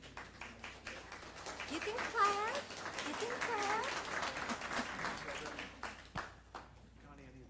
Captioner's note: applause